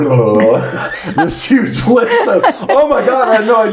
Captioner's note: laughing